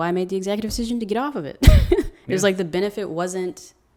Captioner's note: laughs